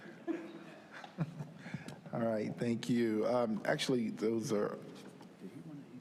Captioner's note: laughter